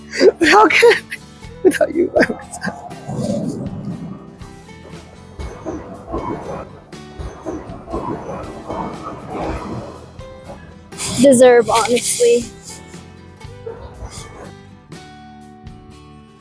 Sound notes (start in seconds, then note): 1.6 heartful cry